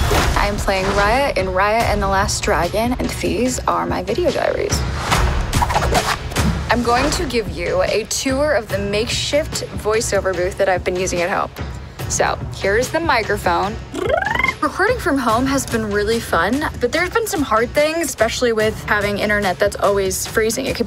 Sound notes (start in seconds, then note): 13.9 vocal trill